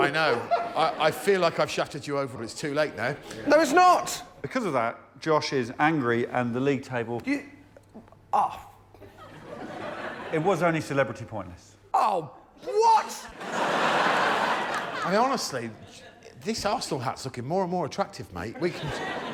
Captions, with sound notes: Well it's up to you. I'm just admin, so. Just thought I'd try and draw you in a bit. -No appreciate that mate. -Are you impressed? That's-- Yeah, I think I am impressed. Think it's really nice. If only you'd have tossed it over a bus. [laughter] Well the most impressive thing to me, straight in there I'll tell you now, is that Tim Key ran the Marathon.